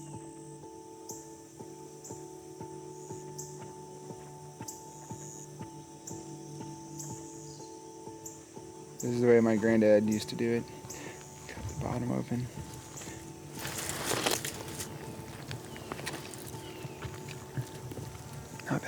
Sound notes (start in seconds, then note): 0.2 birds chirping; 0.2 quiet gentle music; 13.7 slurping